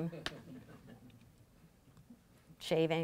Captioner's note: laughing